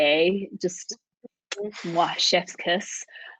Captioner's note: lips smacking